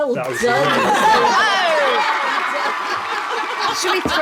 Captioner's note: cheering sound effect